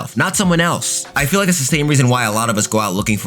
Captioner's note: fire whooshing